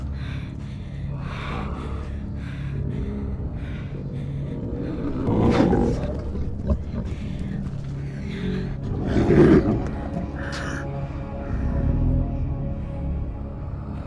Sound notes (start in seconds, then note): 0.6 heavy breathing